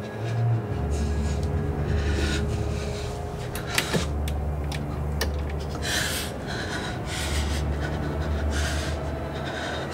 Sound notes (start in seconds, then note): 0.0 Lily panting and shuddering; 3.7 light switch clicks; 5.5 Lily starts to breathe heavy